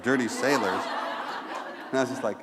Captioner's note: laughter